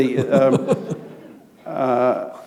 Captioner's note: laughter